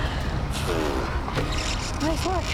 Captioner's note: laughs; blows lips